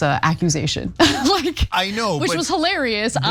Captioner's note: laugh